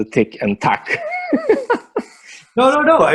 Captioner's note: laughing